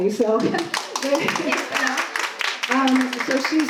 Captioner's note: applause